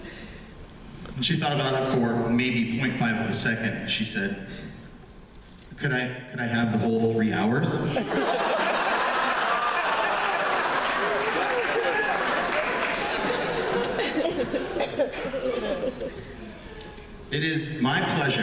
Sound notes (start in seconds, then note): 7.9 laughter